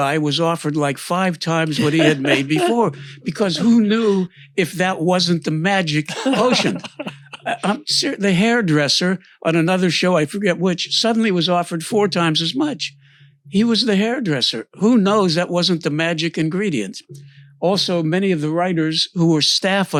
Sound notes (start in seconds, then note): 1.7 laughs; 5.8 laughs